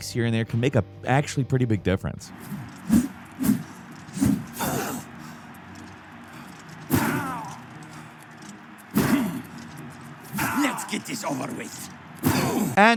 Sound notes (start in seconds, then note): 6.0 crowd cheering; 6.0 fighters grunting